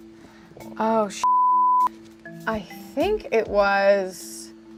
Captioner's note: beep